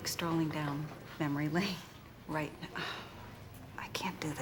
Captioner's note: none